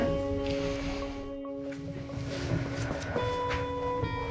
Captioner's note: breathes deeply